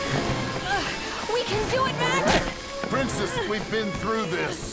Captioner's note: groans